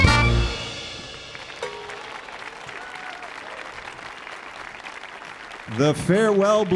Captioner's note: audience cheering; audience applauding